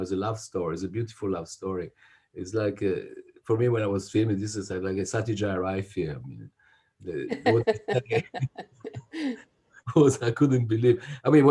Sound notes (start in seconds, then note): 7.3 both chuckling